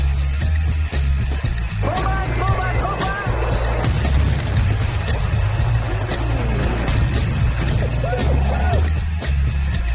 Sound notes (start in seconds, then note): 1.7 actor yells in foreign language; 3.3 explosions booming; 6.2 energetic music continues